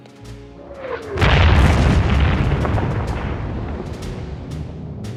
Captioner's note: mosquito explodes